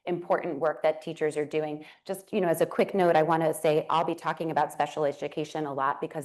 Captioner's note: none